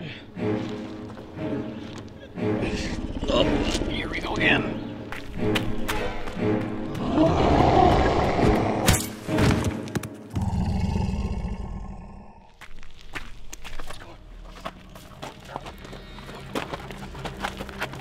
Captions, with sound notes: Oh, here we go again. (CODY roars deeply) (CODY growls in defeat)